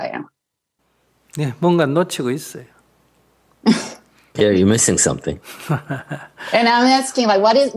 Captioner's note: Sunim Laughter